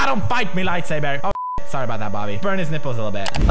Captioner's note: beep